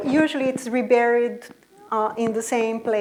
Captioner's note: none